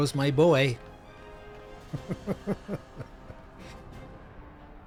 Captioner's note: laughs